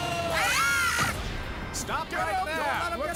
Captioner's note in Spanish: gritan